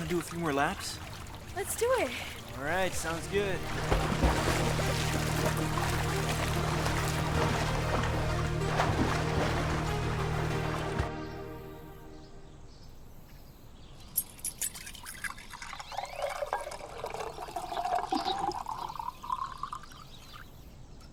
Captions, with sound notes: Wanna do a few more laps? - Let's do it. - All right, sounds good. (water gurgling) (upbeat, cheery music) (birds chirping) (lemonade burbling)